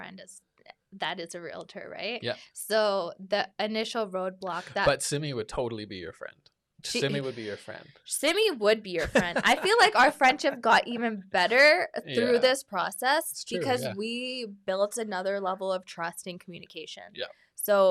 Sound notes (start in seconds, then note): 9.0 laughs